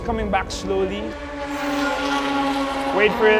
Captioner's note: interrupted by flyby